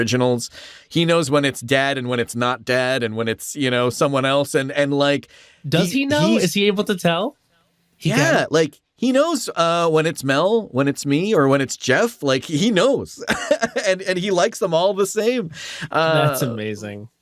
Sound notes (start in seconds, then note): 13.1 laughs